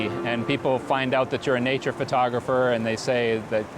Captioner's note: none